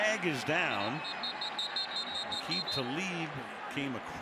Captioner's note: whistle